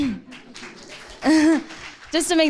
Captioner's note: audience applauding